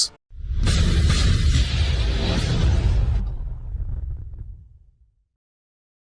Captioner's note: loud Sound Effects